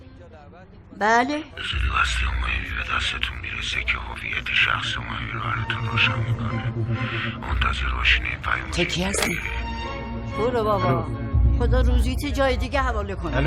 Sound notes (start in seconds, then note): 2.9 changed voice; 6.6 changed voice